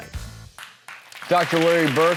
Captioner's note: applause